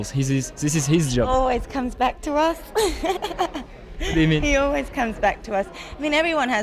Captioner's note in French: rires